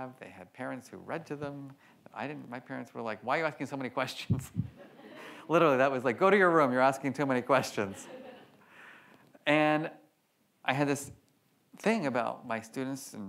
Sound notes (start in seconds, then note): 5.3 laughs